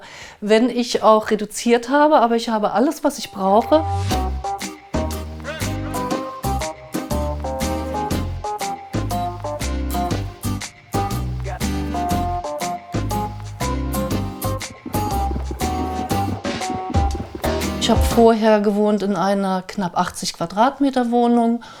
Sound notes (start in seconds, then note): 3.8 light music; 10.8 soft crackling of a fire; 14.1 fast rattling